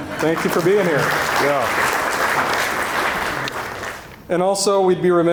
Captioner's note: audience applauding